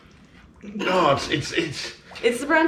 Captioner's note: exclaiming